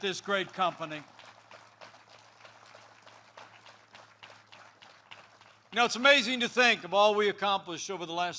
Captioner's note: applause